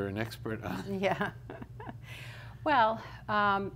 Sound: laughs

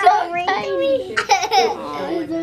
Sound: laughter

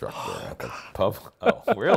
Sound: laughs

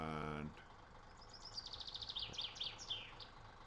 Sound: truck engine running

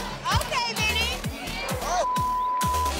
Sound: beep

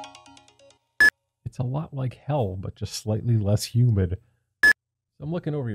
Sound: beep; beep

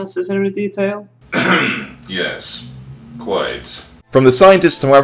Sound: scoffs; clears throat

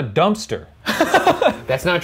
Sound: laughing

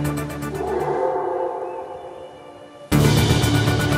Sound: howl

